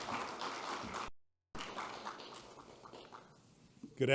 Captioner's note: applause